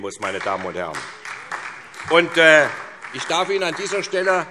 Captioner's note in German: Beifall SPD